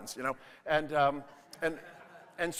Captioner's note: audience laughing